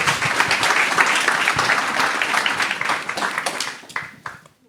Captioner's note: applause